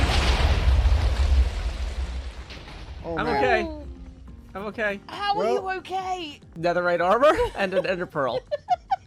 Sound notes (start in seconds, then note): 0.0 many explosions